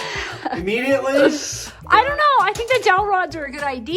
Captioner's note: laughing